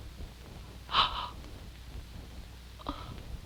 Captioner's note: whimpering